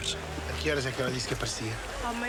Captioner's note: speaking portuguese